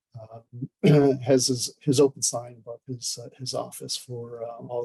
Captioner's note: clears throat